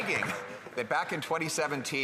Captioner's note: applause